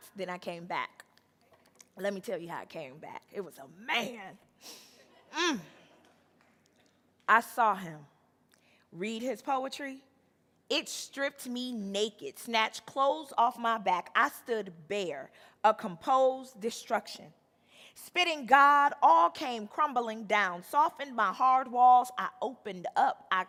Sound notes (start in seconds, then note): 5.1 audience laughing; 5.1 moans